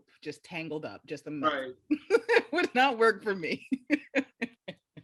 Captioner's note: laughs